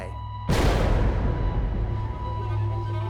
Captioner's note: booming impact